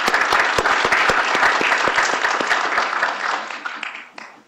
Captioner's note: applause